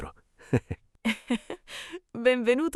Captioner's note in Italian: Haha